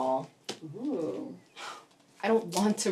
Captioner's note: Kimberly huffs